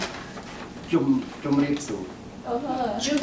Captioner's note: foreign language spoken